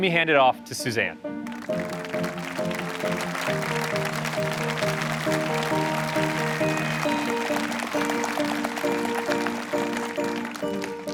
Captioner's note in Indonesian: Tepuk tangan